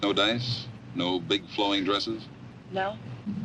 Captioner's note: Doris chuckles